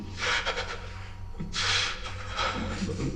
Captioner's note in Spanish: Sollozos contenidos